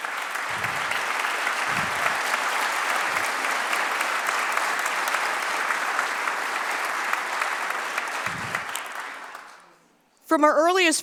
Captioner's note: applause